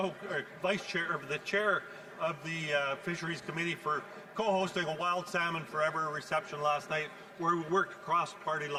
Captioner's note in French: voix de l'interprète